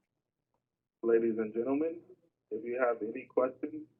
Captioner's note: voiceover